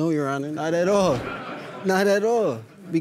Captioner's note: audience laughs